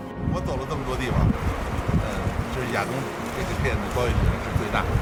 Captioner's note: speaking in foreign language